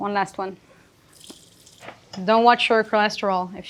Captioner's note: water sloshing